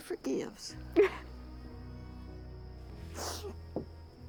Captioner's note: sobbing